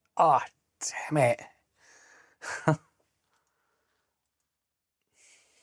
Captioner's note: laughs